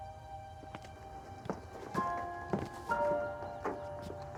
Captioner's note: footsteps